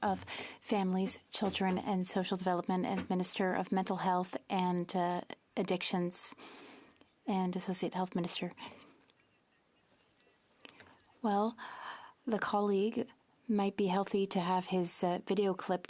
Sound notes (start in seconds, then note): 2.6 speaking French